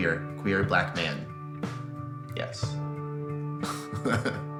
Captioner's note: chuckles